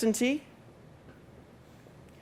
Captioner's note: pause